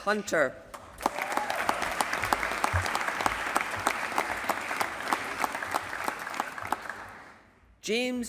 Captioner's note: applause